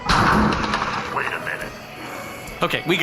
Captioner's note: the door to the bar crashes open